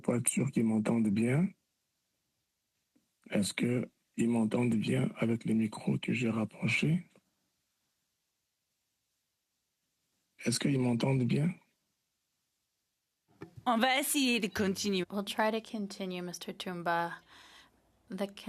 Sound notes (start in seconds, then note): 5.3 speaking French